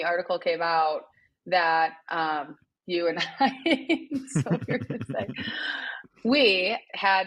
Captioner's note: laughs